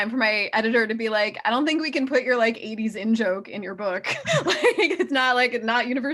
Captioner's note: laughs